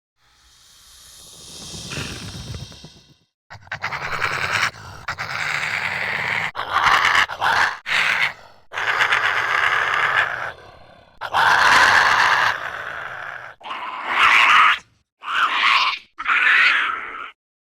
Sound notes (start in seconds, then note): 0.2 hissing; 6.3 high-pitched screeching